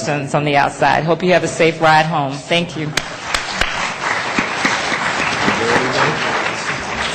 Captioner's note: applause